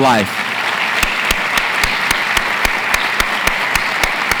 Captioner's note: audience applauds